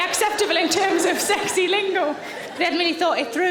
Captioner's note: audience laughing